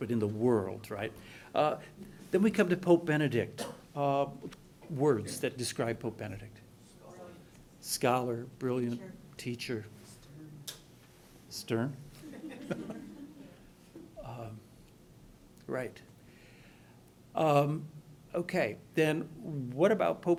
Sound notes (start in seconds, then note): 7.2 voiceover; 10.6 voiceover; 12.2 laughing